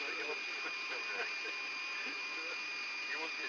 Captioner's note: laughter